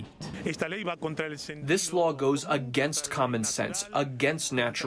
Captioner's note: through translator